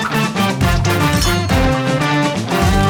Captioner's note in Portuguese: tilintar